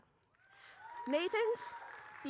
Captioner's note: audience cheering